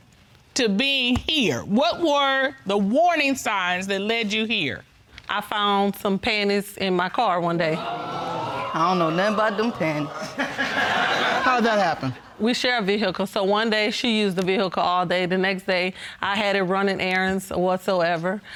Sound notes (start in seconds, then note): 7.8 audience gasping; 10.3 audience laughing